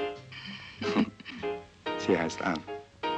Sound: Ann giggling

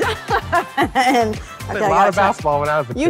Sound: laughing

